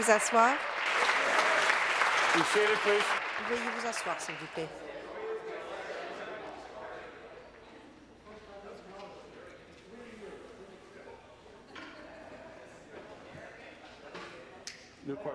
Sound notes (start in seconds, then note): 0.0 some Applause